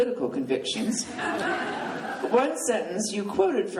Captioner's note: laughing